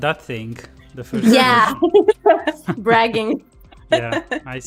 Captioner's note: laughs